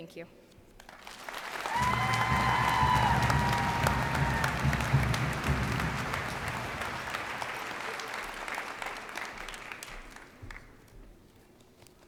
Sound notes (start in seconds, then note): 0.9 cheers and applause